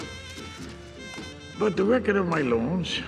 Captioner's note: camera shutters click